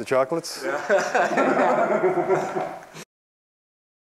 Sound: laughter

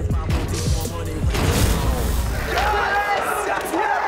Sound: all cheering

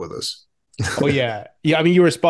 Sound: chuckles

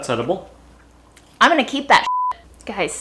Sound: beep

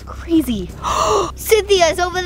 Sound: gasping

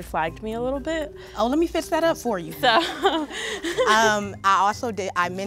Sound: laughter

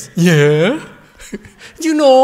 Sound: laughter

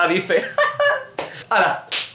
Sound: ironic laugh

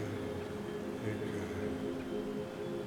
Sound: celestial voice

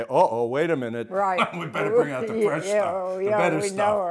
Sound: laughs

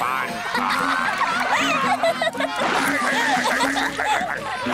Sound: laughing

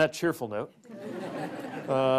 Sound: laughter

